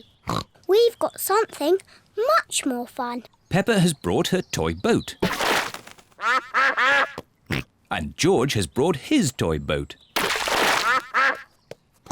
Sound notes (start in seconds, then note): 0.2 snorts; 6.0 snorts; 6.2 ducks quack; 10.5 ducks quack